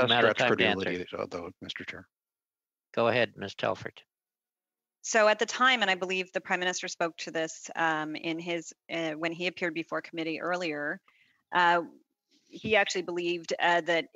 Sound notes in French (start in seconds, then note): 1.8 voix de l'interprète